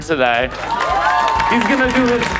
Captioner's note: crowd applauds; crowd cheering